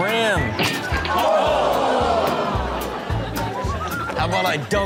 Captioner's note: everyone groans